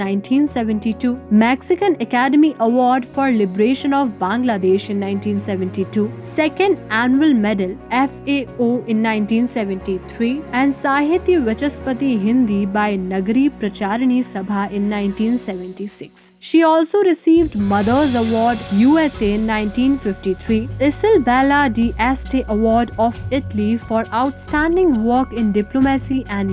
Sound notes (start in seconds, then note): 12.1 Hindi